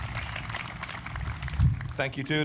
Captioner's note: applause